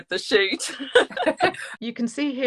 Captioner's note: laughing